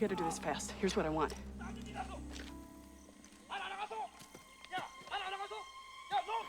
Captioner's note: man Yelling In Korean